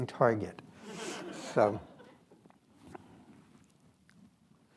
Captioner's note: attendees laugh